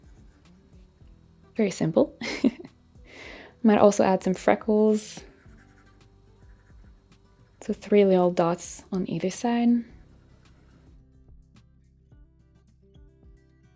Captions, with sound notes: Very simple. (chuckles) Might also add some freckles. So three little dots on either side. (lighthearted music)